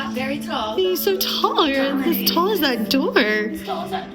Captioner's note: hoots